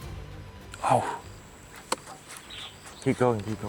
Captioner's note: sighs